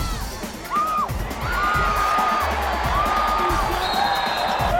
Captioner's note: crowd screaming